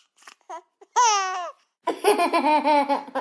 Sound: giggles

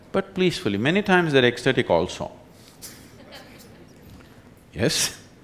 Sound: laughter

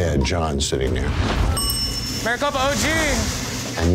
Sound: bell dinging

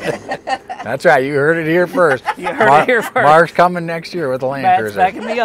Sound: laughter

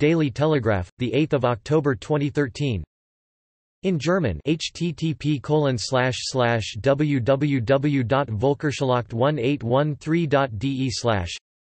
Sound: in German

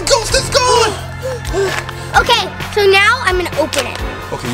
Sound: gasping

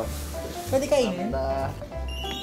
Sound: Korean

